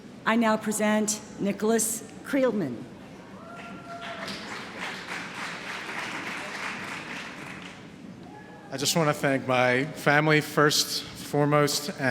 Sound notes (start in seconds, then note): 3.5 applause